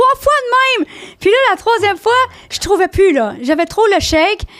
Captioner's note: in french